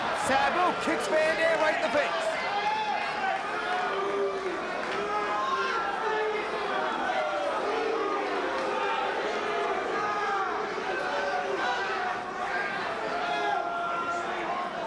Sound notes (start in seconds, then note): 2.5 spectators cheering